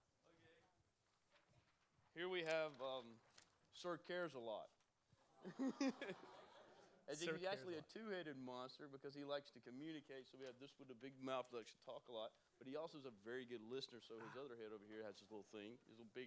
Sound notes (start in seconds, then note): 5.4 laughter; 5.5 awwww